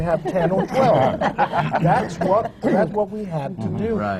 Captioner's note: laughter